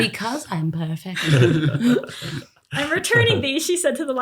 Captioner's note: laughter